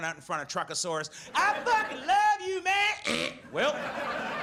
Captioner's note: audience laughs